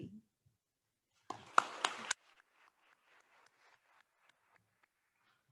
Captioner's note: attendees applauding